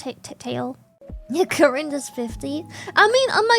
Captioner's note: sniffs